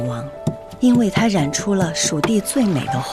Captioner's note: grinding and mixing